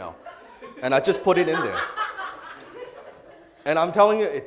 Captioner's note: audience laughter